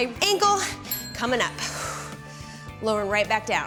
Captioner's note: exhales